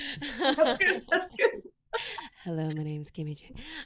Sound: laughs

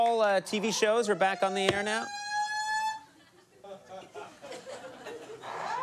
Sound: siren wailing

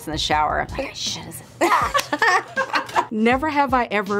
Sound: laughs

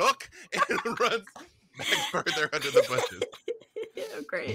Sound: laughing; laughs

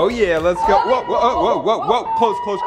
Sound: alarm wails

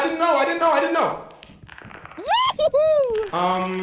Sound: bug skitters; yelps

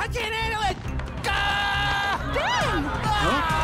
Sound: yells; people chattering

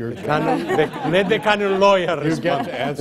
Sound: laughter

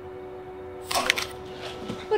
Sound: neck snaps

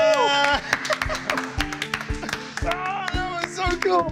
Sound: applause

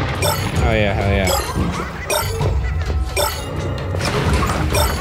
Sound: shards bleeping

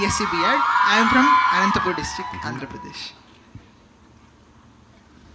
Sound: cheers

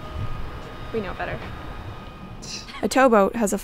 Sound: laughs

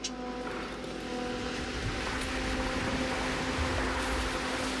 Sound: tree falling

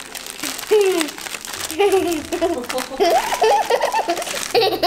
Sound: laughs

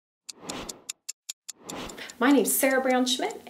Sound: clock ticking

